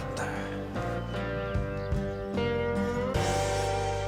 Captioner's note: sighs